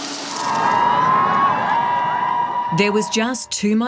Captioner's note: cheering